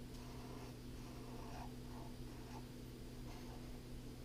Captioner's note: pen scratching